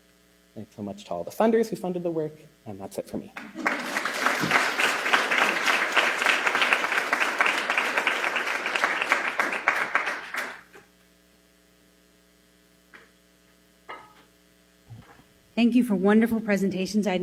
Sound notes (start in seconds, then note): 5.0 applause